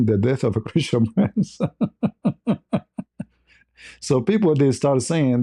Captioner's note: ketawa